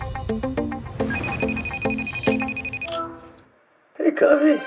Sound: phone ringing

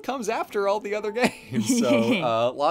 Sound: laughs

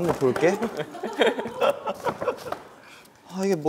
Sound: they laugh

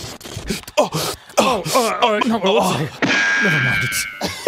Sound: embarrassment noises

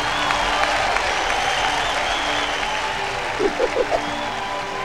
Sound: קהל מריע

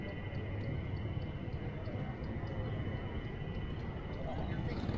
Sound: people chattering

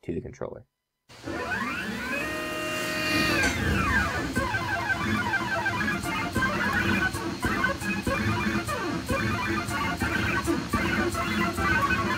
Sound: mechanical whirring

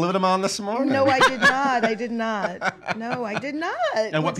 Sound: laughing

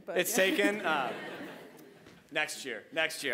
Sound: audience laughing

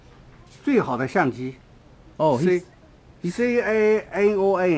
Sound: mandarin

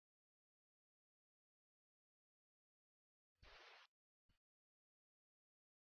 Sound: silence

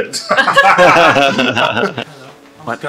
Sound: laughs

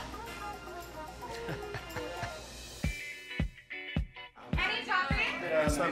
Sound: laughs

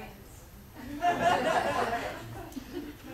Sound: audience laughs

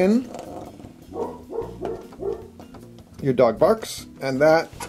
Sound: dog barking

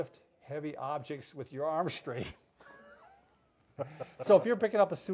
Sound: chuckle

